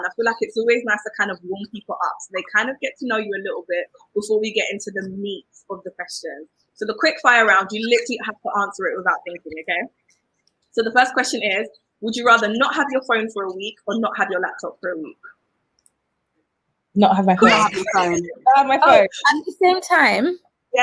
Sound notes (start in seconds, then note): 17.5 laughs